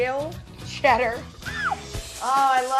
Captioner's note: squeal